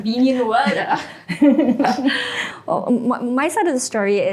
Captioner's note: all laugh